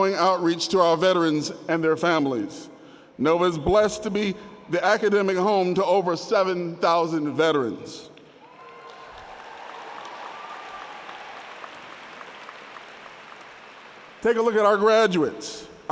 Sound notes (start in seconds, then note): 8.4 audience cheering and applauding